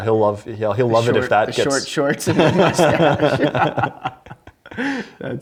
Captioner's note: laugh together